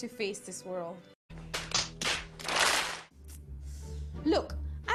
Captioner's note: hands slapping